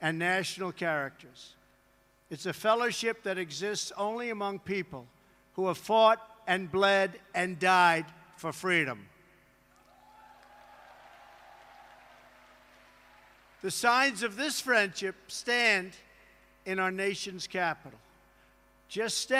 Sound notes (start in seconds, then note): 11.3 applause